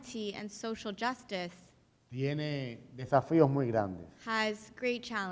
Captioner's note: speaking in Spanish